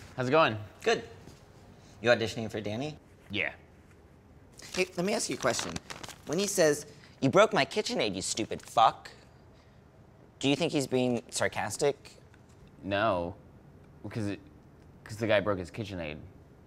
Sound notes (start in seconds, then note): none